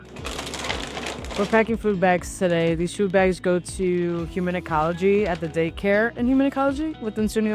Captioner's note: rustling of bag